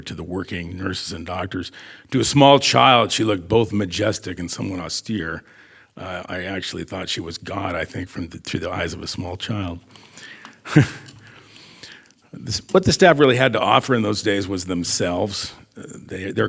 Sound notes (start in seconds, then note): 10.5 chuckles